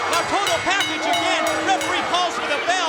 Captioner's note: bell ringing